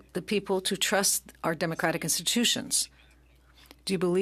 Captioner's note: speaking French